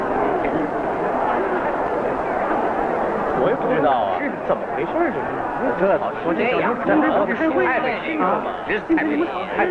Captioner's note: discontent voices